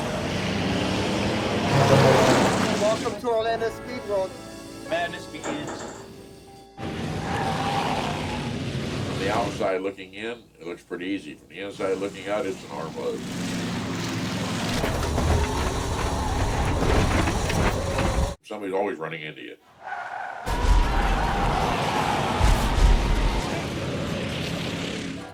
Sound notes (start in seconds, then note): 0.0 engines revving; 6.8 tires squealing; 13.9 engine dying; 19.7 tires squealing; 20.1 crowd cheering